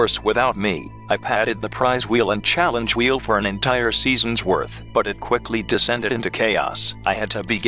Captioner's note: announcer narrating